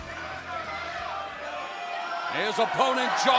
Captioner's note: crowd chatter